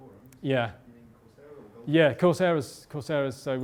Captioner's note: voiceover